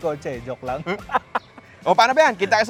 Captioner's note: laughs